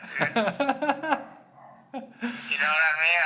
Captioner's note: laughing